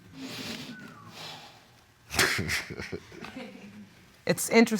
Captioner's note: chuckles